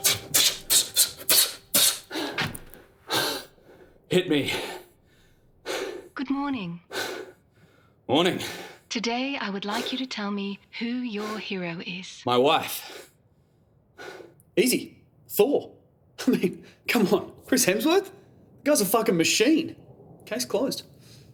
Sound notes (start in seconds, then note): 2.3 body hitting chair; 3.1 blows air; 4.9 breathes heavily; 12.6 breathes heavily